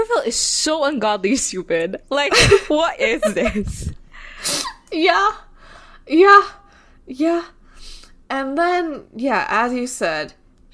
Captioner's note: laughs